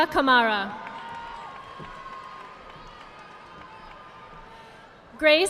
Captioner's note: audience applauding